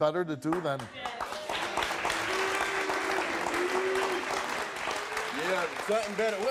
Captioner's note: audience cheers and claps